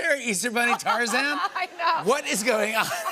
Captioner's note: laughter